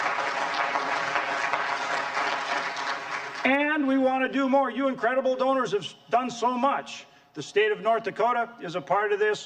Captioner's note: applause